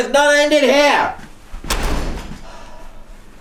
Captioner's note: door slams